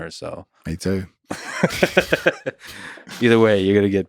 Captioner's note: both laughing